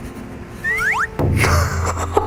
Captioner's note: swoop